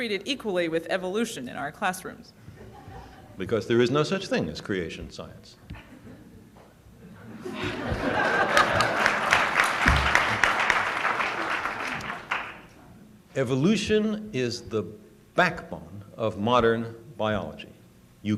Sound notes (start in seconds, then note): 7.0 laughter; 7.9 applause